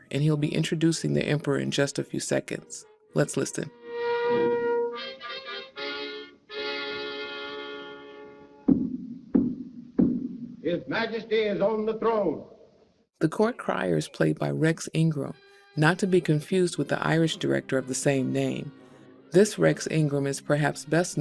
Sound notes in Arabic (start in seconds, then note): 3.6 موسيقى البوق; 8.3 صوت الموظفين